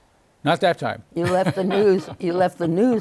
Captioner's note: chuckles